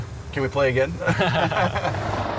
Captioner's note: laughs